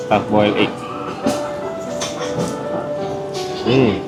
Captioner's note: sips